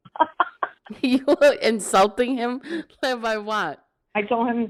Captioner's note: laugh